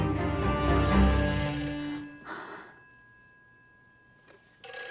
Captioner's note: phone rings